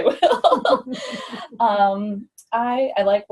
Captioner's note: laughs